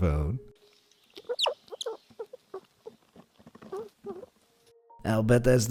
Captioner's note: gentle chirping